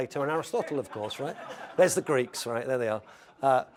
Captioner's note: laugh